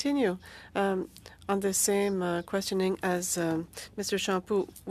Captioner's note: speaking French